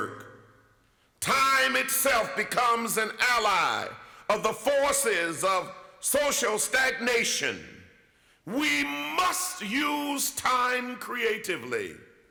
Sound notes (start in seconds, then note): none